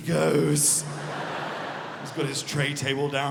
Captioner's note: audience laughing